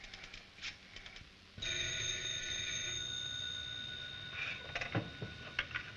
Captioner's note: phone rings